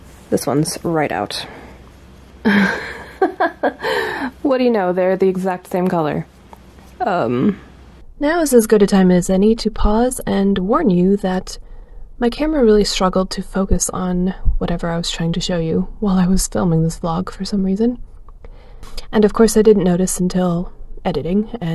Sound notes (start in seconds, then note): 2.5 laughs; 7.9 voiceover cuts in